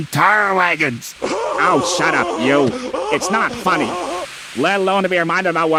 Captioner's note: Henry Laughs Hysterically